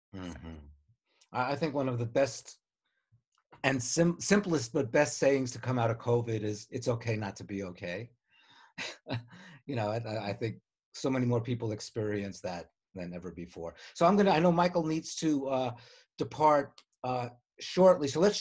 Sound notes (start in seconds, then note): 8.8 laughs